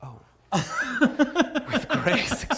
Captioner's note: laughing